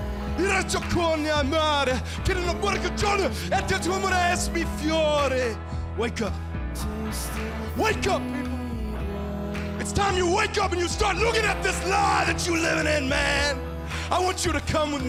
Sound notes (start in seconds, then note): 9.1 speaking in foreign language